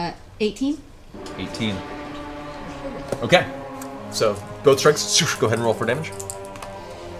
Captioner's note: whoosh